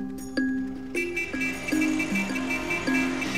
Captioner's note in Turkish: Korna çalıyor